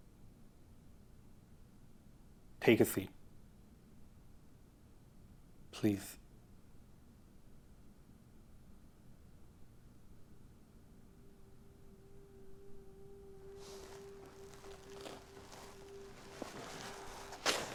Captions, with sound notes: - Take a seat, please. (gentle music) (clothes rustling)